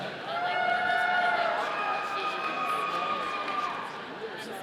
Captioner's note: audience cheering